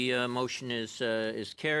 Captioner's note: speaking French